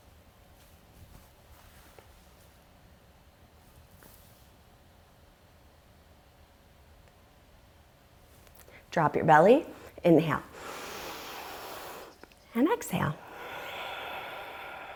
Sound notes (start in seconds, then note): 10.8 deep breathing sounds